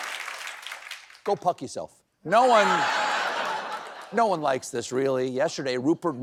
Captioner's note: applause